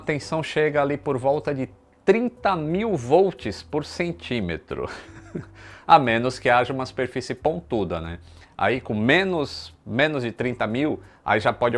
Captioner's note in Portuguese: risos